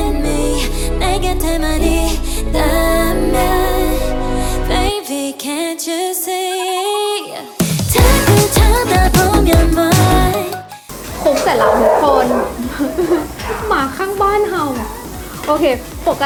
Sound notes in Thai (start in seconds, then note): 11.2 มีเสียงหมาเห่า